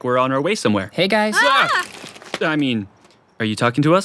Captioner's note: screams in surprise